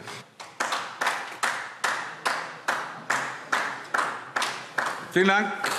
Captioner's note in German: Beifall DIE LINKE